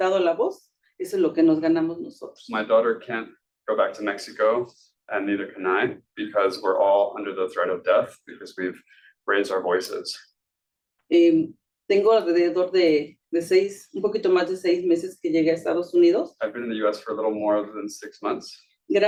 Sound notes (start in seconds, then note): 11.2 speaking Spanish